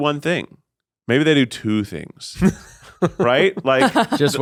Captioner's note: chuckles